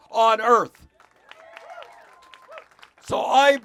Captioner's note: cheers